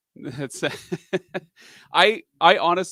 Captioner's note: laughs